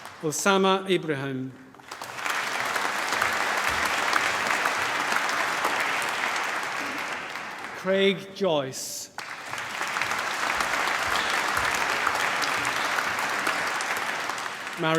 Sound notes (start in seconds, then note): 1.3 applause